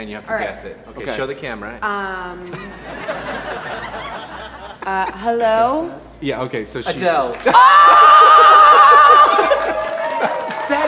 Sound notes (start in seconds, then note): 2.5 audience laughs; 7.4 laughs